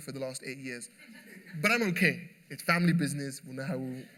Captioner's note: laughter